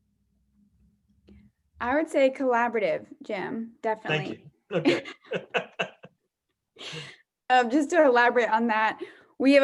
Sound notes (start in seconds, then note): 4.7 laughter